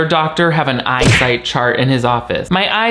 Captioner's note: fist blow thudding